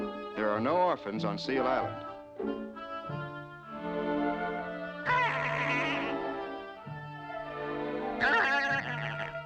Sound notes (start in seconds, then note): 5.0 braying